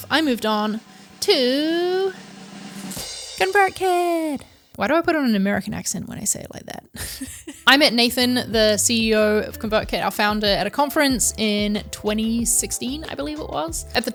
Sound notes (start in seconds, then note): 0.0 drum roll; 6.9 laughs